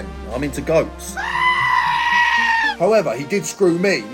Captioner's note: goat screaming